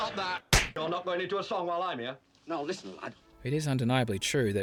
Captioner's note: slap